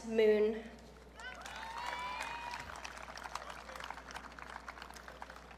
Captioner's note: audience cheering